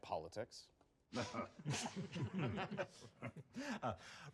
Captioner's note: chuckles